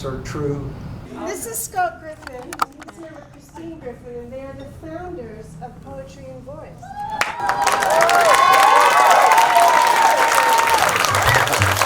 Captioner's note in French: Applaudissements